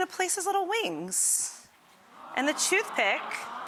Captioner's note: audience awing